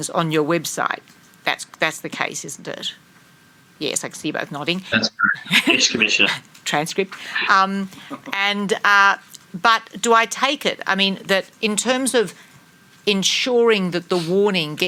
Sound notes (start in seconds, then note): 4.9 laughs